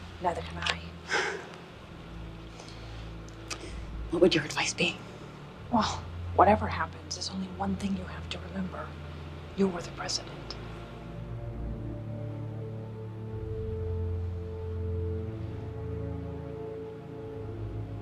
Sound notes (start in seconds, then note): 1.1 President Colton sighs loudly; 11.4 soft music